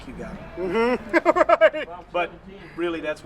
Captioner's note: laughs